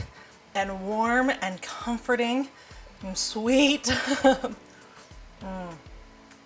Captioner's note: laughs